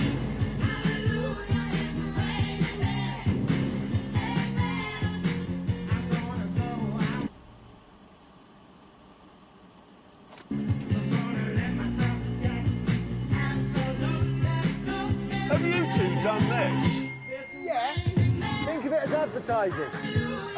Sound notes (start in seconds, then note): 7.2 music stops; 7.2 turns engine off; 10.3 turns engine on